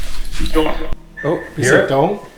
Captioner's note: tape playing